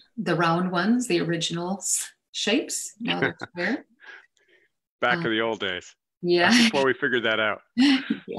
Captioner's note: laughs